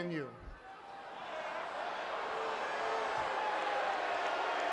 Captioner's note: crowd vocalizing